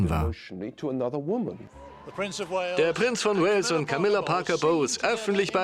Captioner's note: voiceover